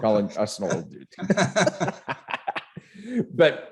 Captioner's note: laughing